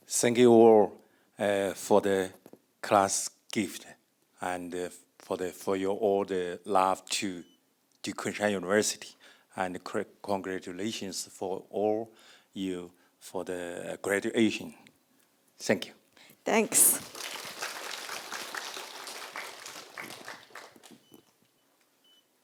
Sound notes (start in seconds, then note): 16.7 audience applauding